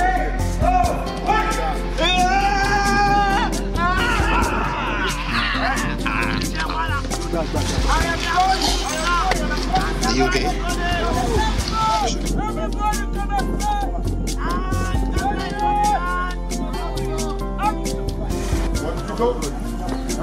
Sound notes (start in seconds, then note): 0.1 man shouting indistinctly; 2.2 man screaming; 8.1 all chattering; 11.6 all chattering